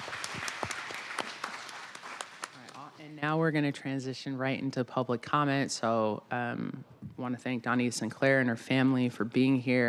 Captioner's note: applause